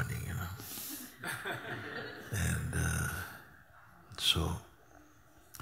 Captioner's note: laughter